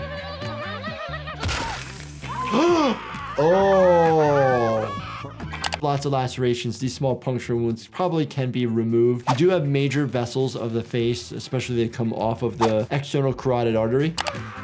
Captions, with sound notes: (doctor gasps) Oh. Lots of lacerations. These small puncture wounds probably can be removed. You do have major vessels of the face, especially they come off of the external carotid artery.